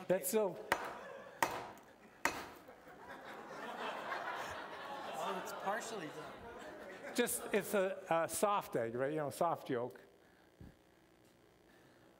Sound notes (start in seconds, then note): 2.6 laughter